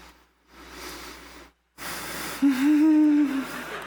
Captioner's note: laughs